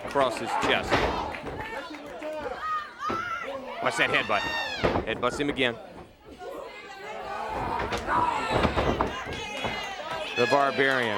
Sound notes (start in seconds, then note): 1.3 crowd chatter; 2.5 crowd cheering; 5.9 crowd chatter